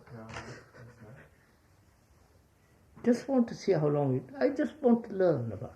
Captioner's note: laughs